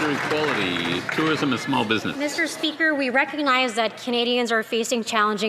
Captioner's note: some Applause